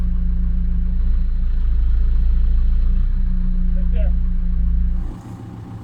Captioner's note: truck engine whirring